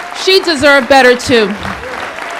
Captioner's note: applause